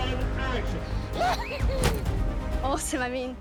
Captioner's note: whoops